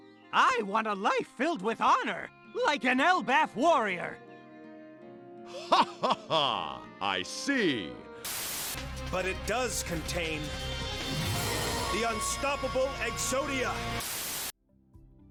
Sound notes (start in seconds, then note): 5.5 laughing